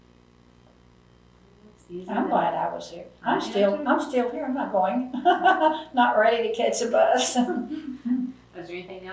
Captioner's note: laughs